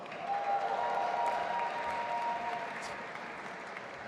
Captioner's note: audience applauding